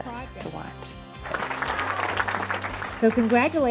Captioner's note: clapping